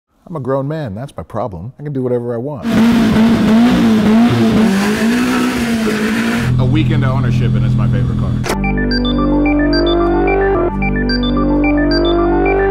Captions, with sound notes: - I'm a grown man, that's my problem. I can do whatever I want. (engine revving) A week into ownership, and it's my favorite car. (upbeat techno music)